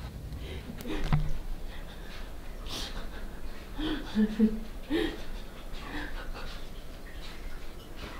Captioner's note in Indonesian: tertawa